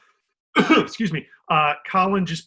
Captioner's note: coughs